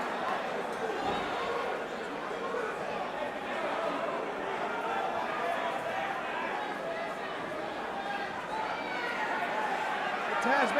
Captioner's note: crowd chatter